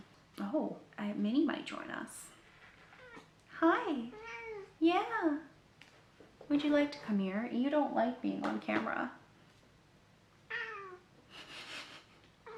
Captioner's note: meow